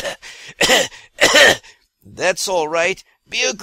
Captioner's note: cough-cough-cough